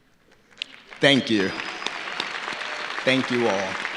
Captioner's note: audience applauding